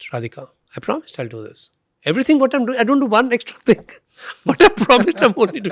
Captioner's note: laughs